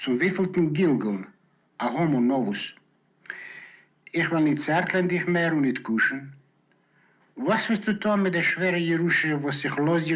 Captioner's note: in Yiddish